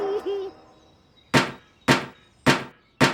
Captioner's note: deliberate tapping